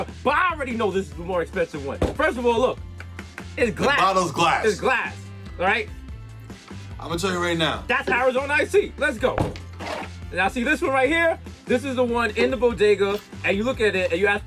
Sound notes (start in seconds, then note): 2.0 knocks on glass bottle; 9.3 pops